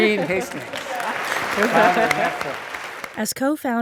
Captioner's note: applause